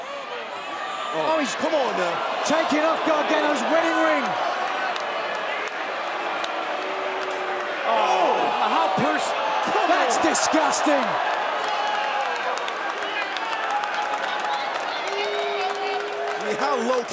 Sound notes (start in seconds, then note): 11.3 crowd cheering